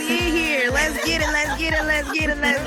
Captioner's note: panelists laughing